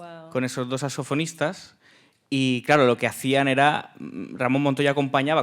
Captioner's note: speaking in Spanish